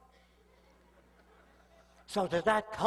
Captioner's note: soft chuckles